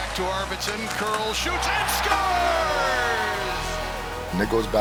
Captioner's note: crowd cheering